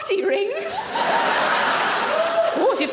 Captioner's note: audience laughs